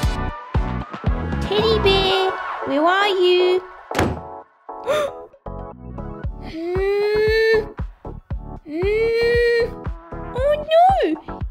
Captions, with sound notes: Teddy bear, where are you? (Slam!) Huh! Hmmm! Hmmm! Oh no!